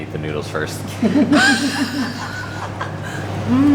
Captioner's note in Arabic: ضحك